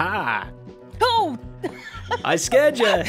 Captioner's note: laughs